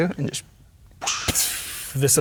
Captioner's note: imitates explosion